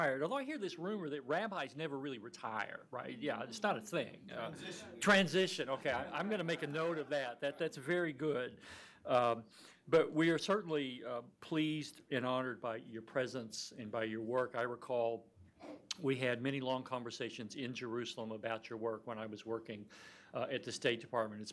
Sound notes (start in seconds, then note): 3.4 murmuring